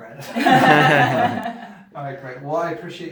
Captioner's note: laughing